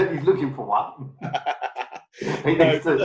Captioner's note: laughing; laughs